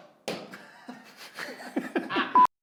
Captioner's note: laughing